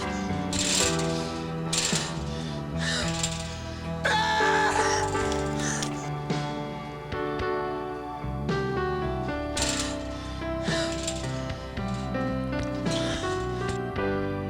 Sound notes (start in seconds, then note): 0.1 Jacob panting; 4.1 man shouts